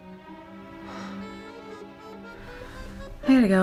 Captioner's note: sighs